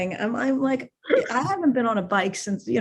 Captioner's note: chuckles